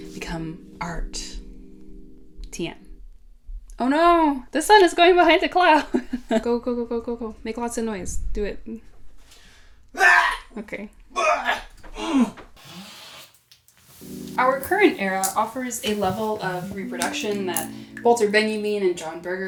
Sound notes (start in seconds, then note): 11.1 wild yells and grunts